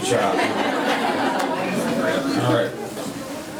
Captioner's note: laughing